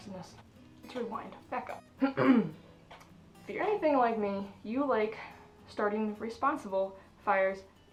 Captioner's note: clears throat